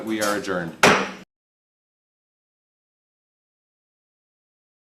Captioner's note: gavel bangs